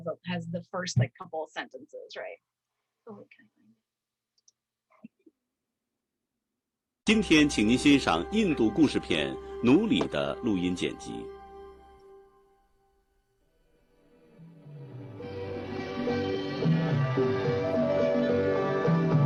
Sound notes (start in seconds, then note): 7.2 speaking in Mandarin; 14.3 soft music